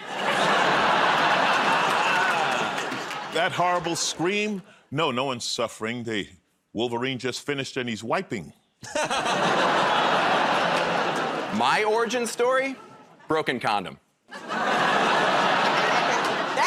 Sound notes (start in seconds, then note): 0.0 laughter; 9.1 audience groans; 9.1 laughs; 14.3 laughter